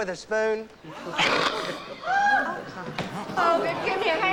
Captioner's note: gasping and murmuring